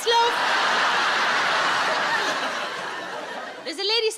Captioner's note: audience laughs